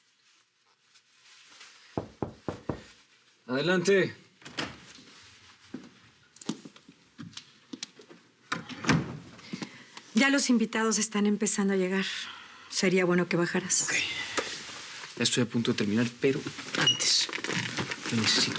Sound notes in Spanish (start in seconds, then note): 2.0 Toques en la puerta